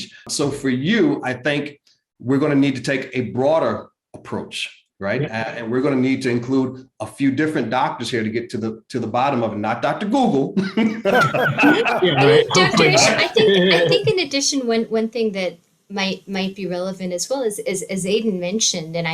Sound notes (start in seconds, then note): 11.0 all laughing